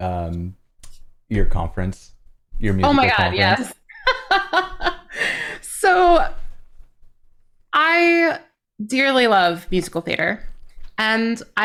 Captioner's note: laughter